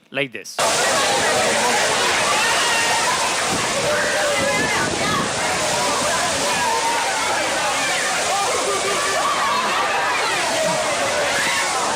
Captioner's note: video with children shouting and water splashing